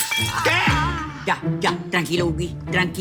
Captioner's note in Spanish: Sonido de cristal roto